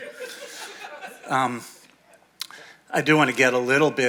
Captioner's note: audience laughing